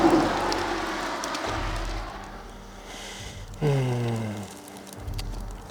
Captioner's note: water splashing